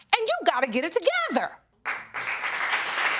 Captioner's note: audience clapping